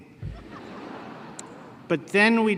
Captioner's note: laughter